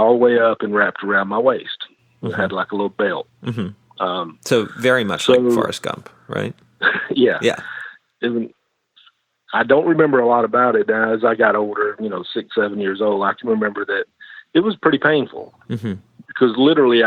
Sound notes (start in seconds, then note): 8.1 chuckles